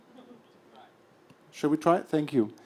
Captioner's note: voiceover